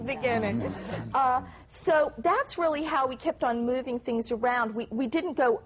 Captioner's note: laughter